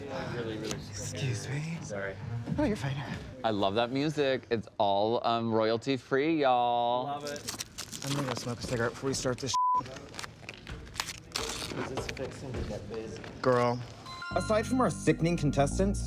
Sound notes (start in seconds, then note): 9.5 beep